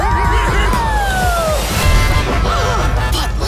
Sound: honking

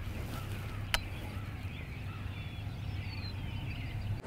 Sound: crows cawing

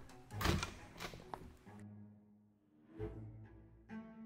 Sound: playful music; door closes; playful music

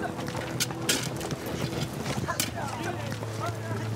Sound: workmen chattering; shovels scraping

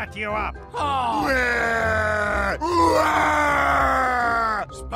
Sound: crying

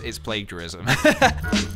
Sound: laughs

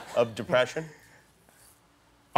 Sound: laughter

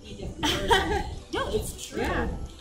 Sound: laughs

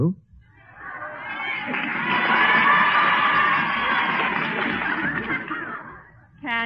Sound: audience Cheering/Clapping

